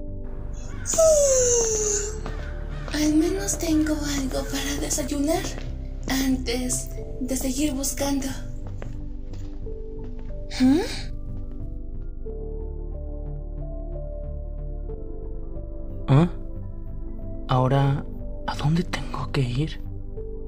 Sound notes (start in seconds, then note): 0.6 yawn